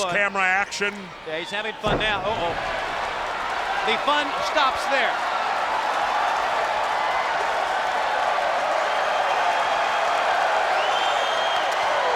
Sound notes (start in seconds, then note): 6.1 crowd cheering